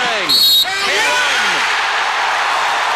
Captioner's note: whistle blows